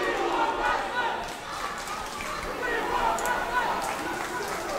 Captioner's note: crowd chanting